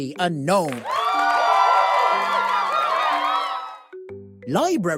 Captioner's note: crowd cheering